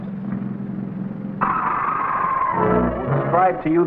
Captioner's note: engine rumbling; suspenseful music; serpent shrieking